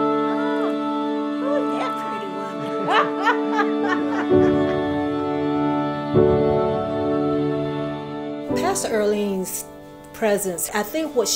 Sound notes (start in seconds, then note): 1.4 laughs